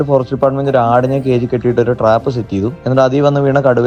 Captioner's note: narrating in Malayalam